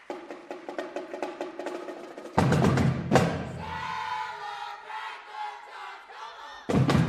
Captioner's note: cheers and applause